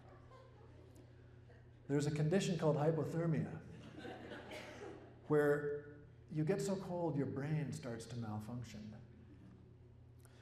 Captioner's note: laughter